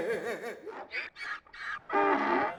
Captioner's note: Donkey's bray